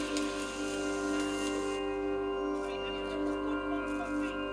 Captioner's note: television chatters